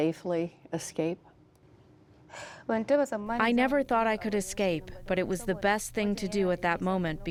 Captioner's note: through translator